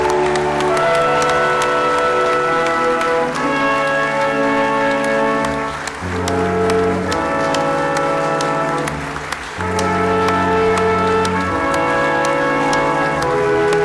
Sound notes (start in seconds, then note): 7.5 crowd applauding